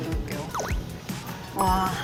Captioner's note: slurp